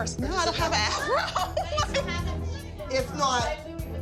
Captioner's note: laughs